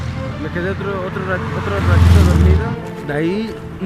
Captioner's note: damn noisy cars